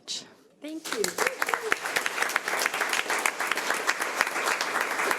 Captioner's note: audience applauds